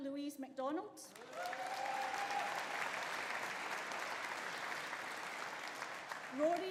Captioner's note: audience applauding; audience cheering